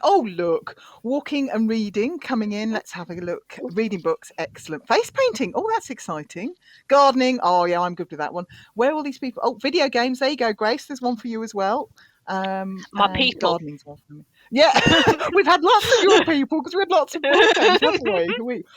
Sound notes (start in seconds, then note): 14.7 laughing